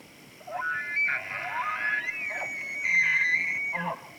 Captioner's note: elk bugles